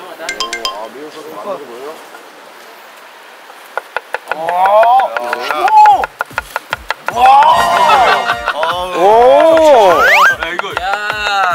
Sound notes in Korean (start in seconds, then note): 3.1 감탄